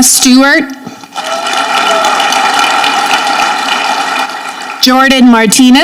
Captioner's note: audience clapping